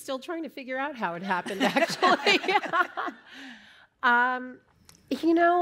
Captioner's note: laughter